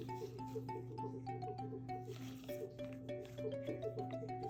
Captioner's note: the sound of a washing machineㅠ